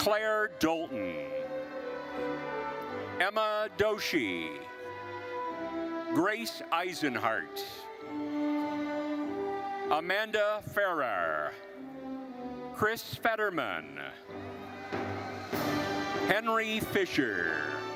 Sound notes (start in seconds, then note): 1.8 gentle classical music continues; 8.2 gentle classical music continues; 14.4 attendees cheering; 17.7 rousing classical music